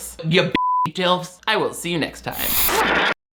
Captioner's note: beep